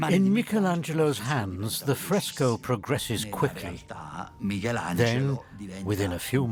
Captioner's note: in Italian